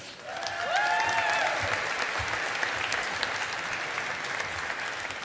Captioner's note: audience applauding